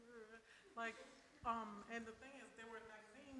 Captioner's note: audience laughs